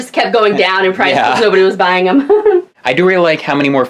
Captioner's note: laughs